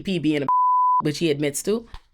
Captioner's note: beep